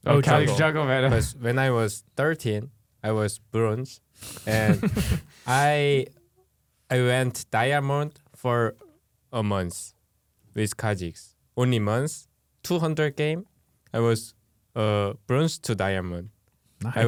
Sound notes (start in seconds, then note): 0.1 laughs; 4.3 laughs